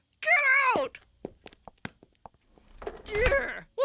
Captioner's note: footsteps walking away and door closing